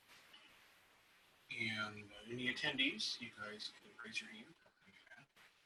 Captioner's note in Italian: Muffled Voice